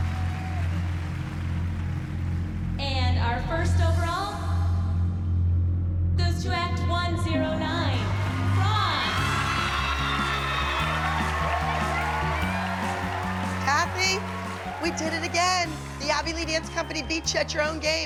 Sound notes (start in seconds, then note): 8.5 bright music; 9.3 cheering and applause